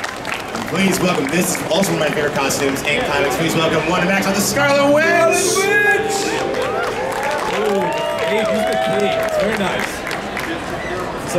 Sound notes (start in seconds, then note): 4.9 audience cheering